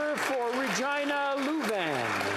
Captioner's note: applause